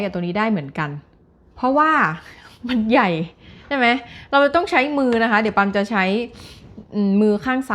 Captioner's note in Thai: เสียงสูดหายใจ